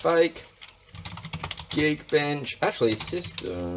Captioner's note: typing